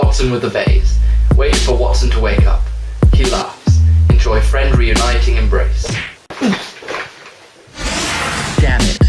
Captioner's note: punch